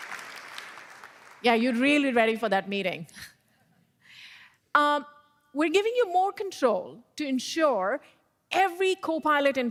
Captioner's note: applause